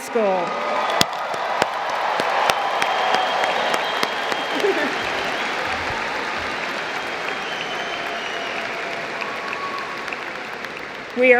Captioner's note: cheers; applause